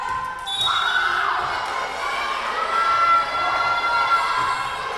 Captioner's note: whistle blowing